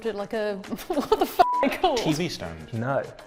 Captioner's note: beep